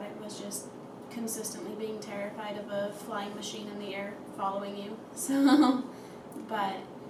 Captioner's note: laughs